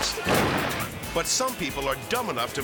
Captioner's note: fireworks exploding